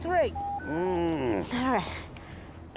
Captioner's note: man groans